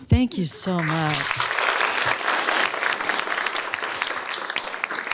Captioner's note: applause